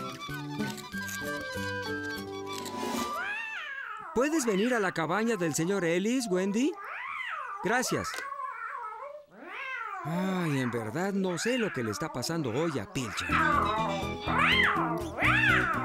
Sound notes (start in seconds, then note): 0.0 squeaking; 3.7 distant Meowing; 8.5 distant Meowing; 13.6 excited Meowing